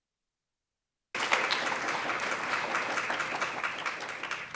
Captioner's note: applause